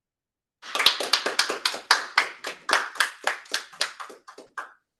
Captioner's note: appluse